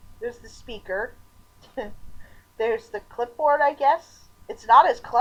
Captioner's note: chuckle